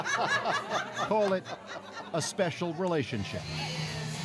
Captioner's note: laughter